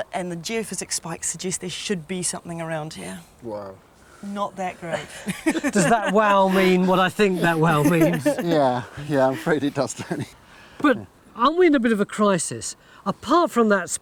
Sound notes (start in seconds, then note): 4.9 laughing